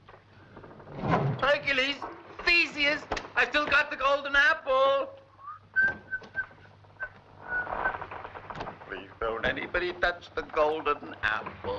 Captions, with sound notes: - Hercules, Theseus, I've still got the golden apple. (whistling) Please, don't anybody touch the golden apple.